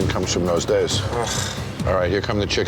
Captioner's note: sighs in disgust